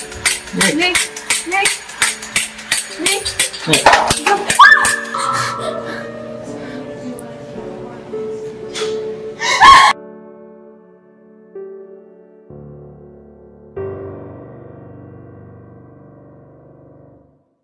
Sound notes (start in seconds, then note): 2.2 monkey crashes; 4.6 screams; 5.1 hyperventilates; 9.4 screams; 10.0 piano music swells